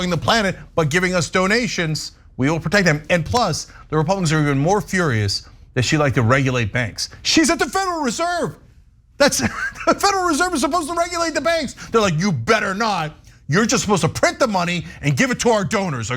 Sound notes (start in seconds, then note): 9.2 laugh